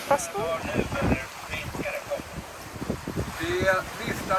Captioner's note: VHF radio